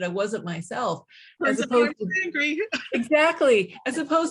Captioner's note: laughing